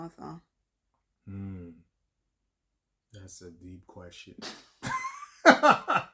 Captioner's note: laughter